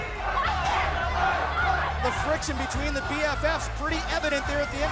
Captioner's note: shouting